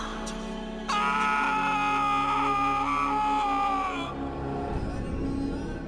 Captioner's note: Paxton screams